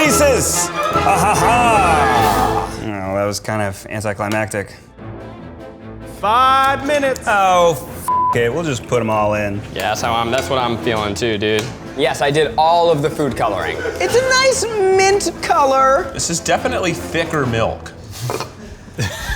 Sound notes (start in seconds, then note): 8.1 beep; 18.5 laughing